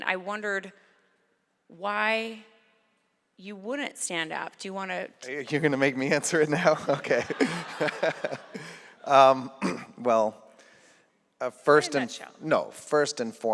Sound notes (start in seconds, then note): 7.8 laughter